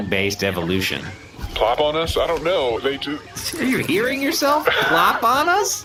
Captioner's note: laughing